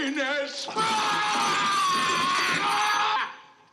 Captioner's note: screams